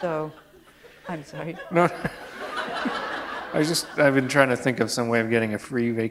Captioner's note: laughter